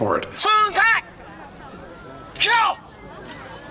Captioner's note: non-english speech